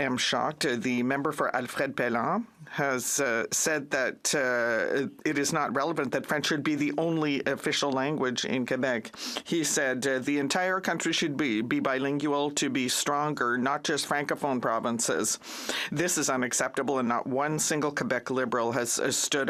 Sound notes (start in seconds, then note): none